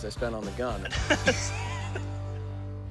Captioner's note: laughter